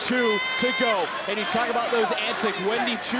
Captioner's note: crowd claps